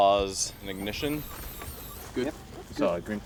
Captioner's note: motor whirring